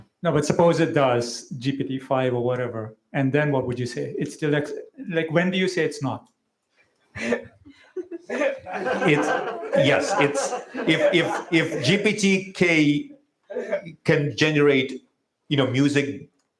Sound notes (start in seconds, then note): 8.9 laughter